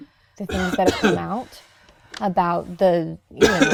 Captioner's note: coughing drowns out voice